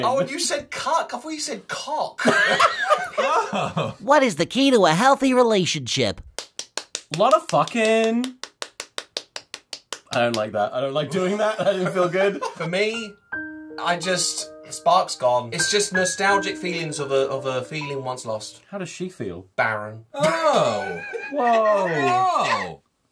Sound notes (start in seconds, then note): 2.2 laughter; 6.3 slapping continues; 6.3 slapping noises; 12.3 sad music plays; 20.2 laughter